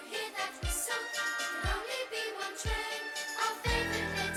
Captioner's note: whistles